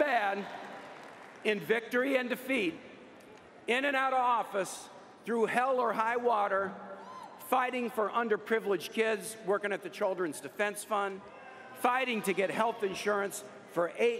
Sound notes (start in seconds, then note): 2.1 applause